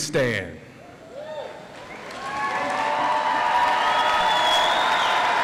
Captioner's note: audience applauds